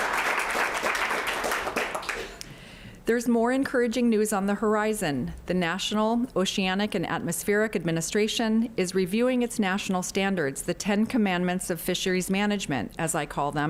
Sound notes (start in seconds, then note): 0.0 applause